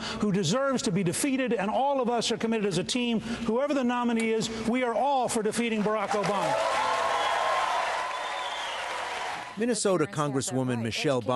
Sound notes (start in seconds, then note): 5.7 cheering and applause